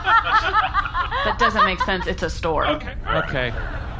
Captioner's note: laughter